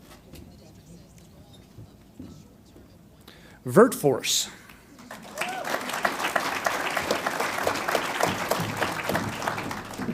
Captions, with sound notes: Virteforce LLC. (audience applauds)